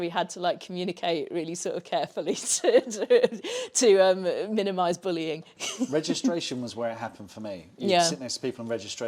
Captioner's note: laughs